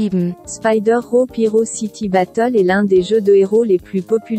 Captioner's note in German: Eine weibliche Computerstimme liest vor